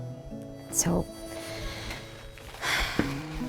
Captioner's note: sighs